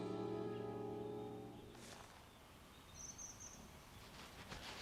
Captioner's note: birds chirping